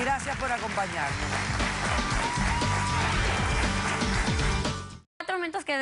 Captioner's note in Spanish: Aplausos